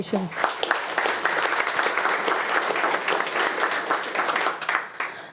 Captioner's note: attendees applauding